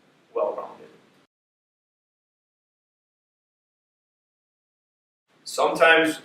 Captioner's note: silence